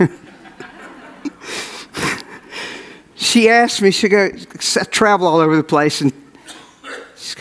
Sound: audience laughs

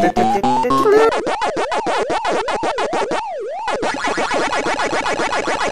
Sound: video game sound effects

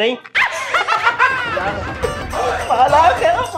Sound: laughing

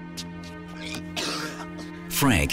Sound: ominous music; coughing

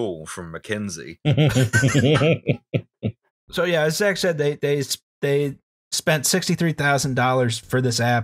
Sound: laughter

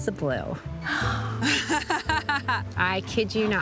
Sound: gasps; laughs

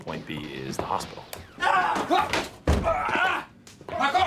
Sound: screams

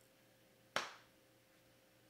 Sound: leg slap

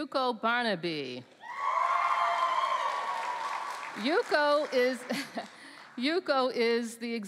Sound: cheering

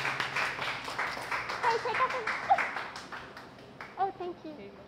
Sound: applause

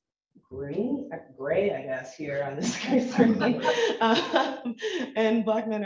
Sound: chuckles

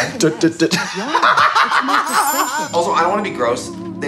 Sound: both laugh

